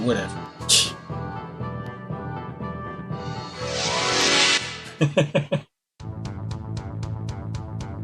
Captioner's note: laughs